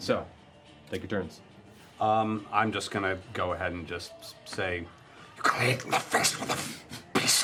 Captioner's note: demonic voice